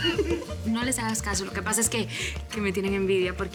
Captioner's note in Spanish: Risas